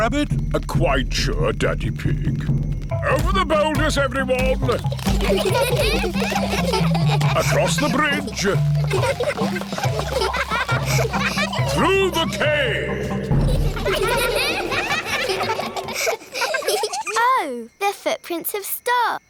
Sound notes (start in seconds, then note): 4.8 children giggling; 11.3 echoing